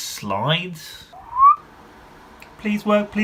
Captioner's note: whistles